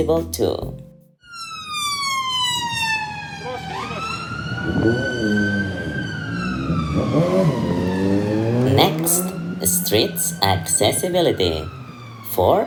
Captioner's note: ambulance